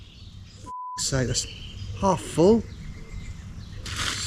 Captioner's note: beeps